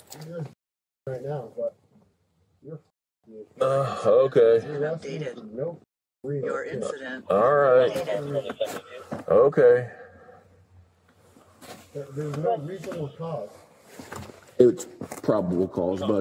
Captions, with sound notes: You're -- right now You're --, dude - Okay - Your incident has been updated - You -- me for no -- reason - You're incident has been updated All right (Radio chatter) Okay There's no reasonable cause It's probable cause, buddy,